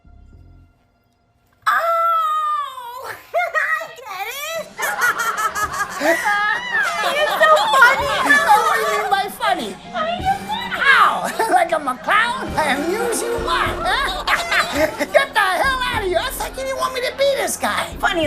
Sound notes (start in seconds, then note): 2.7 laughs; 4.4 crowd laughter and clown horns; 4.6 he laughs; 8.0 frenzied laughter; 12.2 frenzied laughter clown horn